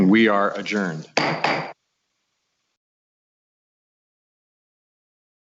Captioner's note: gavel bangs